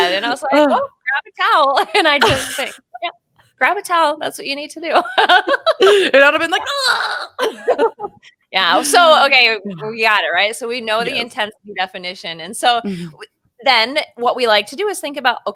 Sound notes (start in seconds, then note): 0.0 laughing; 5.2 laughing; 7.4 both laughing